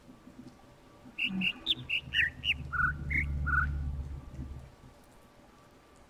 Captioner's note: overlapping birds chirping, ˥ ˥ ˩ ˧ ˩